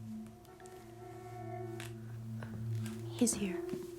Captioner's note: horn honking